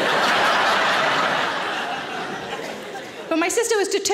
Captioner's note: audience laughing